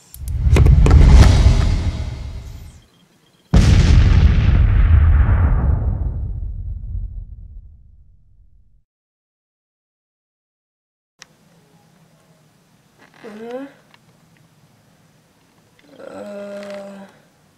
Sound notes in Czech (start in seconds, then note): 3.5 hlasité bouchnutí